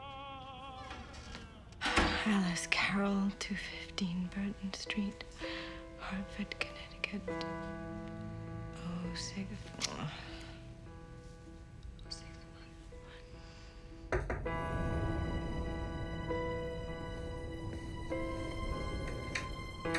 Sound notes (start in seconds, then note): 14.1 knocking on door; 15.8 suspenseful orchestral music